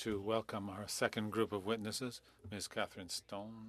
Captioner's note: speaking French